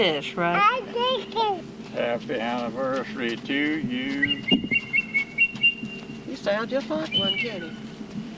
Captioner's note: sound of eagle whistle in the background